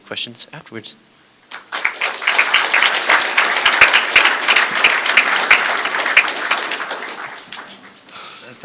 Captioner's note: applause